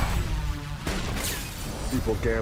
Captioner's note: gunshots